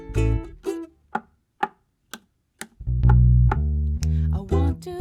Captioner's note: knock knock slap slap knock knock snap